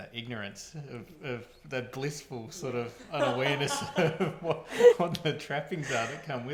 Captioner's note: laughing